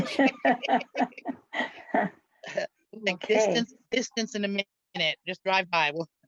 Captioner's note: laughs